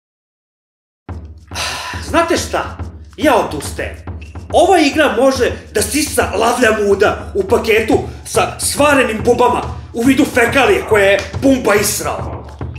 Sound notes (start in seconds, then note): 1.5 sigh